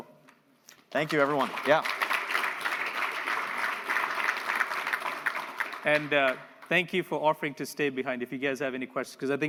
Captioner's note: applause